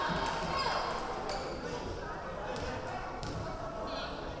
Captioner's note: yelling